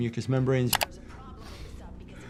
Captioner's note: mouse clicks